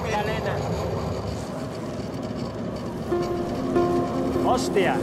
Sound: speaking in foreign language; luggage unzipping; speaking in foreign language

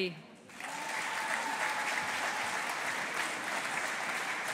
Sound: audience applauding

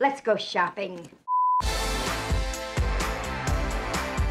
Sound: TV beeps; upbeat music

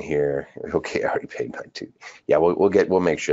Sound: laughs

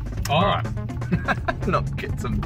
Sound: laughs

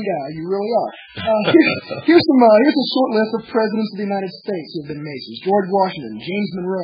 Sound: laughs

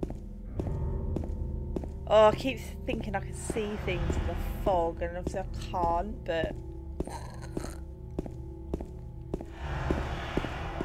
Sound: sick noises

